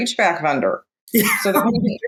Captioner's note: laughs